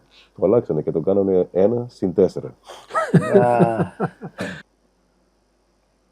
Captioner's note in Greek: γέλια